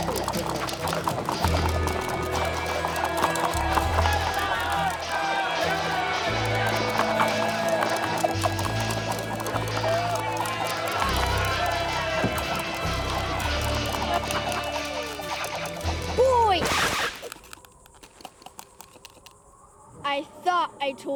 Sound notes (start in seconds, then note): 4.0 cheers